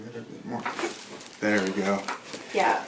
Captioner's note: popping